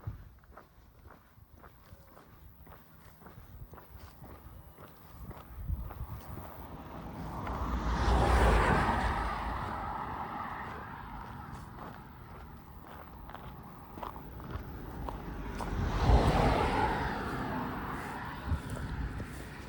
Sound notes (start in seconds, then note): 0.0 footsteps; 8.2 traffic noise